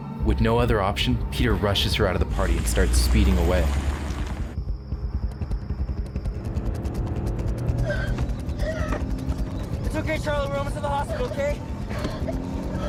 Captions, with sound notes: With no other option, Peter rushes her out of the party and starts speeding away. *Gasping* It’s okay Charlie, we’re almost at the hospital. K?